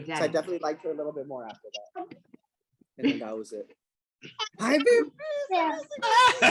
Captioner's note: laughter